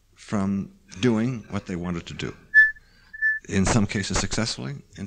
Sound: mic feedback

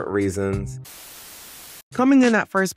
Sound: static buzzing

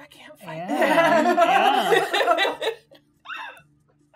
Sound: gamers laughing

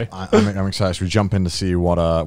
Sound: laughs

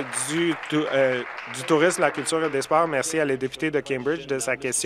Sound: applause

